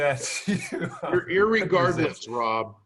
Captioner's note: laughs